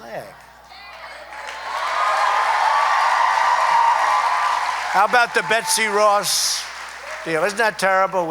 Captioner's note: applause